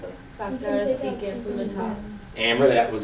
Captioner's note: students chattering